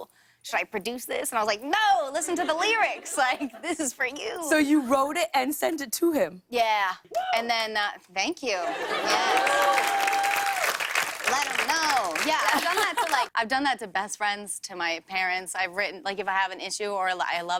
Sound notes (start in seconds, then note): 8.8 cheers and applause